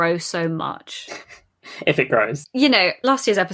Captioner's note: laughs